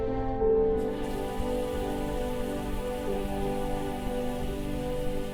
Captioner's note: water running